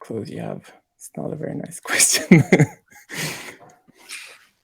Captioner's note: laughing